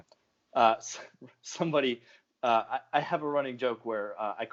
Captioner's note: laughing